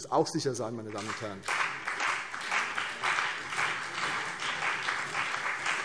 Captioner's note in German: Beifall CDU und BÜNDNIS 90/DIE GRÜNEN